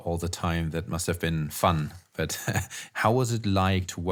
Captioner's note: chuckles